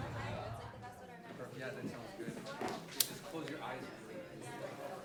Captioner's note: people chattering